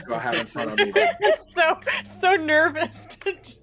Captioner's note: everyone laughs